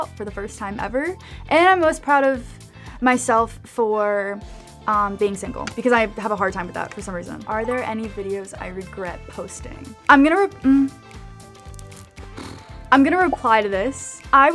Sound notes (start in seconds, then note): 11.6 nails clacking; 12.6 blowing raspberries